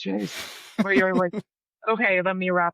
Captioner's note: laughing